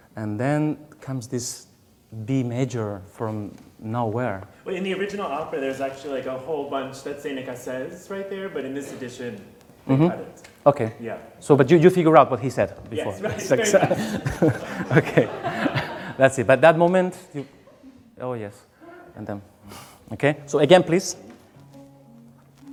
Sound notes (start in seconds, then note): 14.7 laughing